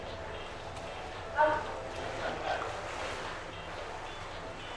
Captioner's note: water sloshing